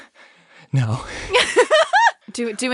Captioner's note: laughs